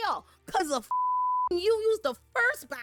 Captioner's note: beep